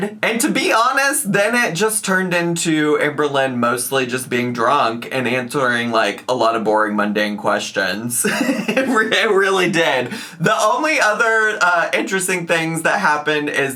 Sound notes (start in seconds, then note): 8.2 laughs